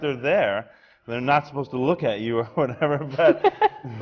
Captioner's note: laughs